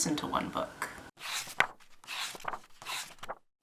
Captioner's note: pages turning